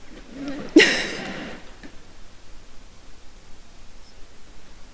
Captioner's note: chuckles